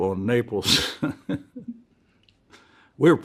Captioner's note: laughs